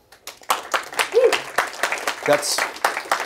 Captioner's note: applause